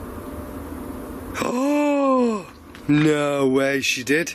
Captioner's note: gasps